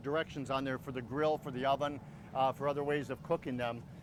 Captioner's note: none